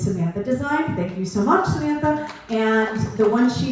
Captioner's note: clapping